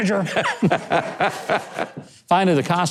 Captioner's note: laughing